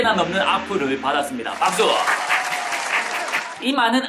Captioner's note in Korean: 짝짝짝